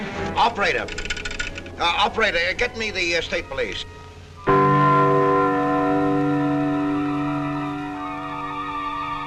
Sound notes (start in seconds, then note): 4.2 clock chiming